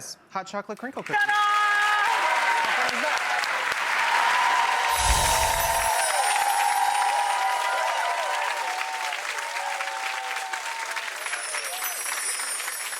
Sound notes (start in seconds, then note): 2.2 audience clapping; 4.9 chiming